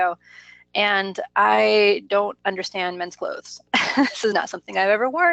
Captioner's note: laughs